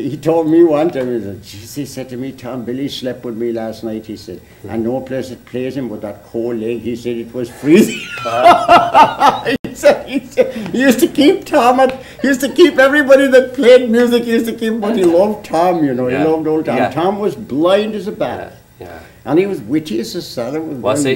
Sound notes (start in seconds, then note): 7.7 laughter